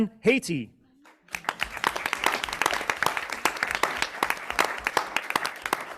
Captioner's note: audience clapping